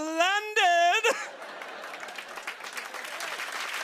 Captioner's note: cheers and applause